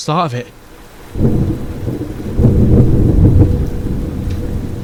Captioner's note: thunder